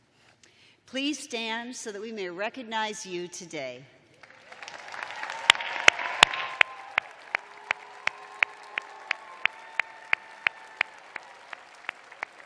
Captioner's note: cheers and applause